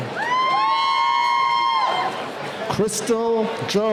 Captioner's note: cheering